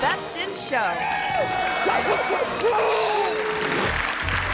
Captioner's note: barks; audience clapping